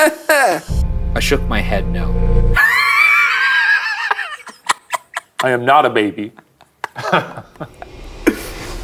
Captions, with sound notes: "I shook my head no." (laughing) - I am not a baby. (chuckles)